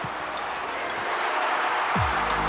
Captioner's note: crowd cheering and applauding